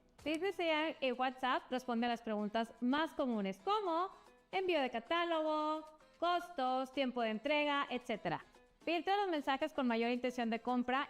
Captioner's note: speaking another language